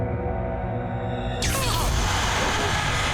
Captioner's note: screams